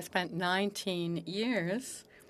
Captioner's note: speaking French